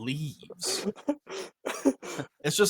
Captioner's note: laughs